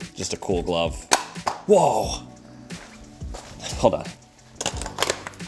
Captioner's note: plastic hitting floor